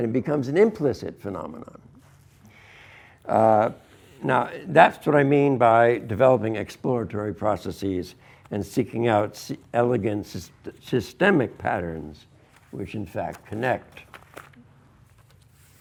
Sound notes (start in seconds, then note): none